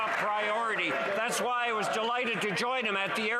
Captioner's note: some Applause